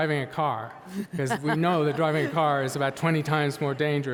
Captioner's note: laughing